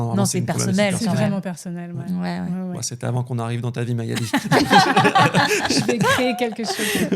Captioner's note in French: rires